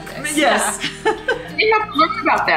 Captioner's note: ladies laugh